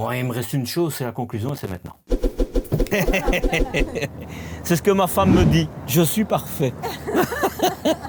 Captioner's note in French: rires